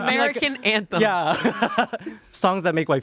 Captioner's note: laughs